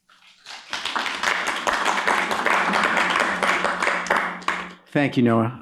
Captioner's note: applause